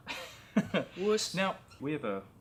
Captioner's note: laughs